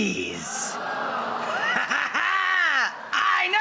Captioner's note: diabolical laughter